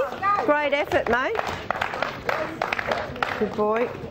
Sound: clapping

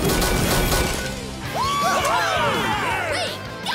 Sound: cheering

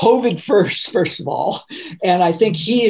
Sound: laughing

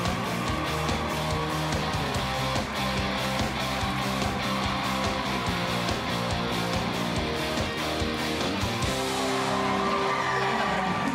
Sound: cheers and applause

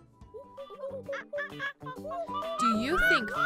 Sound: monkey chatter

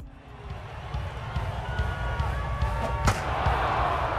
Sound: crowd cheering; bat whooshes; bat cracks; crowd cheering

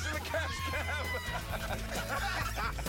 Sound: laughter

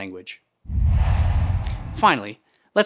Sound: logo swooshes

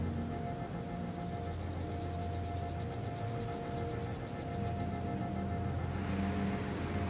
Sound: distant urban noise

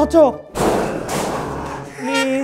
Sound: bang

